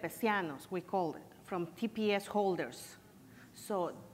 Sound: foreign language

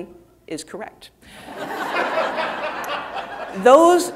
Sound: audience laughing

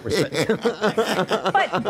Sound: laughter

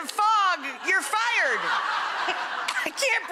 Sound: audience laughing

